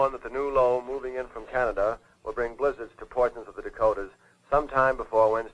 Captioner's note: none